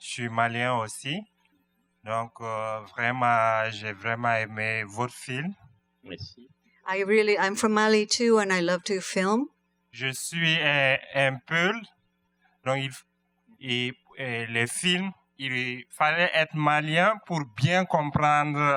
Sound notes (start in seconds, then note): 11.1 speaking french